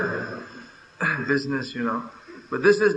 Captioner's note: laughter